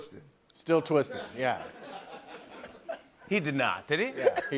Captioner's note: laughter